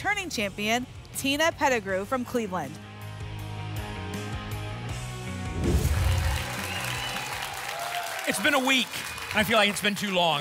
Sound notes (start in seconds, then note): 5.5 whoosh; 5.6 applause and cheering